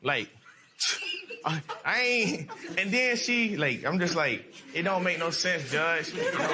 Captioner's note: scoffs